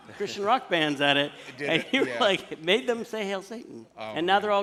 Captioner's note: laughter